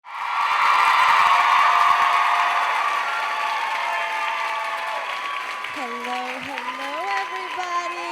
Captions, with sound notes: (crowd cheering) (audience applauding) - Hello, hello everybody.